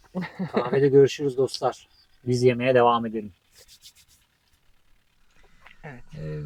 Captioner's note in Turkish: kahkaha